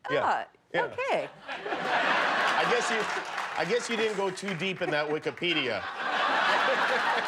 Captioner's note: laughter